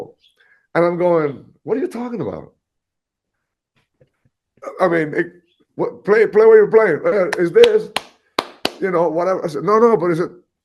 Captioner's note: claps